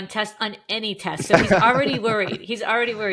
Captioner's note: laughing